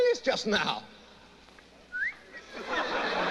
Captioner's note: whistling